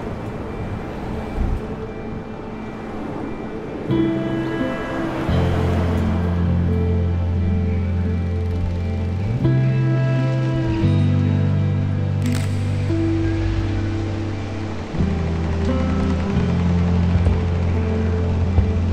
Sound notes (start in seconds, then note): 2.5 car driving; 5.5 gentle music; 12.2 camera shutter clicking